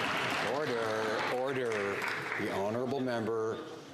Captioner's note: some Applause